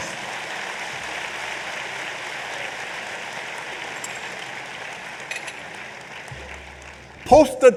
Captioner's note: applause